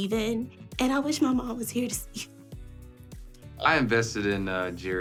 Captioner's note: voice cracking